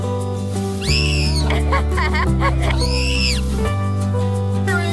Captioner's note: playful yelling